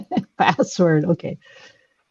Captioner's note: laughs